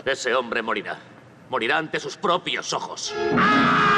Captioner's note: screaming